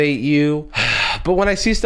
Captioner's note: sighs